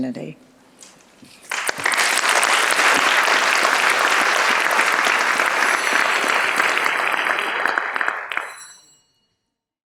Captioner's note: applause